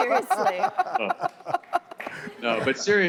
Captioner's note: laughter